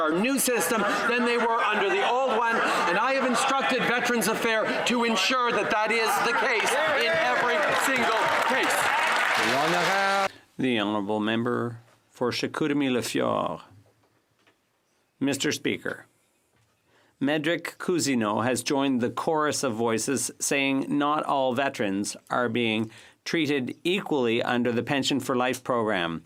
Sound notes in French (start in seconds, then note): 8.0 voix de l'interprète